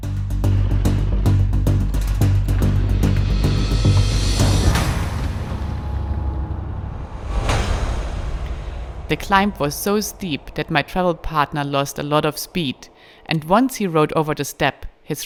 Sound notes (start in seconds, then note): 0.2 pensive music continues; 4.4 dramatic sound